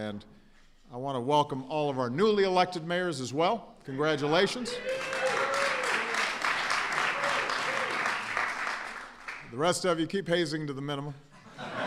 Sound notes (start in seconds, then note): 7.5 applause